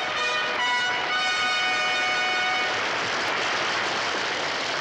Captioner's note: triumphant fanfare music; audience applauds